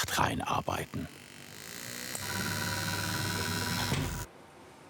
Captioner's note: whirring of varying intensity; silence